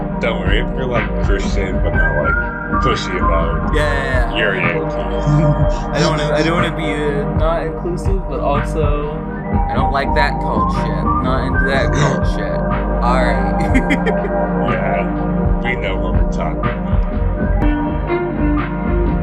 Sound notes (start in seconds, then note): 5.6 laughs; 5.9 laughing; 11.5 laughs; 17.3 chill music